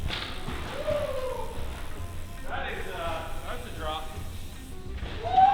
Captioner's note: rider celebrating